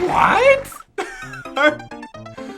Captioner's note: laughs